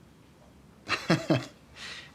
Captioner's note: Allen chuckles